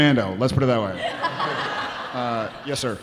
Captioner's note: audience laughing